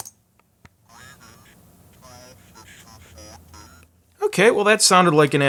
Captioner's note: robotic Voice